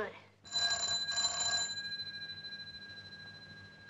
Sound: telephone rings

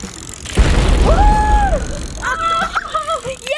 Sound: screaming; laughing

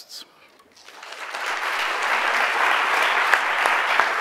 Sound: audience applauds

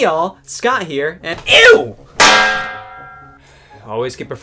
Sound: pan clangs

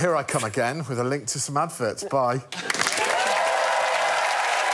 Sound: audience laughs

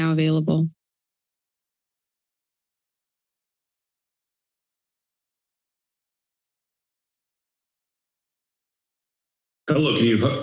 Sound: silence

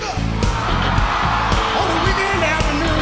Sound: audience screaming

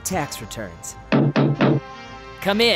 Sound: knocking

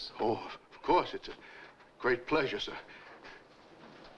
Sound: stammers

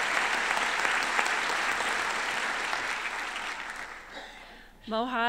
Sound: applause

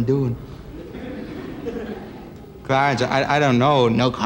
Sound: laughter

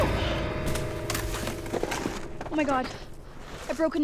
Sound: startling music; snow crunches; body rolls away

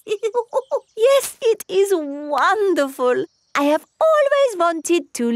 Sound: laughs

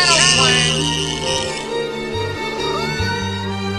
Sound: bawling

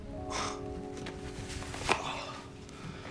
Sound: moaning sound

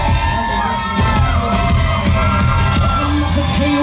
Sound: crowd cheering

